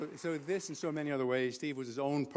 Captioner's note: applause